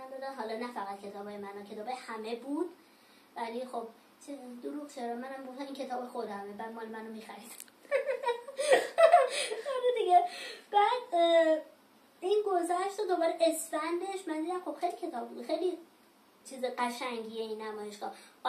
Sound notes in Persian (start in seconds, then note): 7.9 خنده